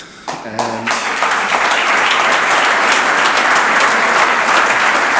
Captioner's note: audience applauds